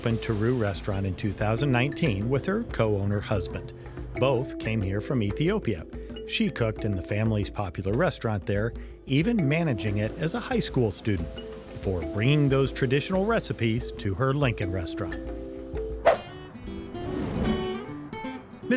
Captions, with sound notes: opened to Tiru restaurant in 2019 with her co-owner husband. Both came here from Ethiopia. She cooked in the family's popular restaurant there, even managing it as a high school student before bringing those traditional recipes to her Lincoln restaurant. (gentle music) (swoop) (upbeat music)